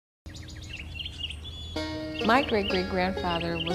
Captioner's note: birds chirping